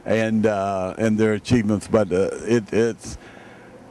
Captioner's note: none